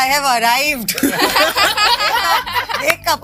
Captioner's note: laughter